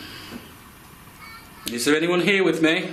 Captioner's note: child babbling